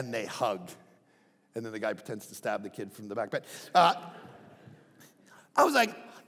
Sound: crowd laughing

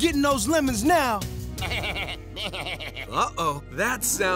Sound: laughing

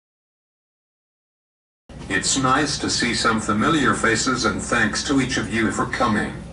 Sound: through TTS

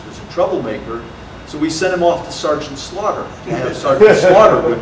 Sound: audience laughter

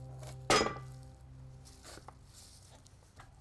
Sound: loud bang

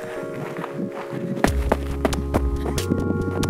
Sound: quick crunching footsteps

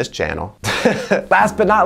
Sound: laughs

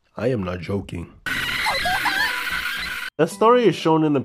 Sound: hitori gotou emitting a visceral scream

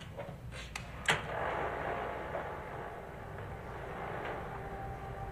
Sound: film reeling

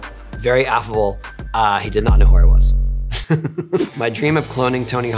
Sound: laughs

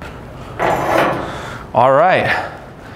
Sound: metal chinking

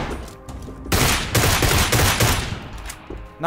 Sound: shooting

